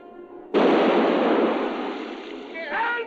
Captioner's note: canon blasting